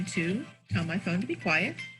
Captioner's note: phone rings